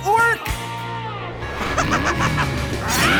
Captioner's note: roars; laughing